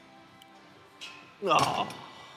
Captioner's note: grunts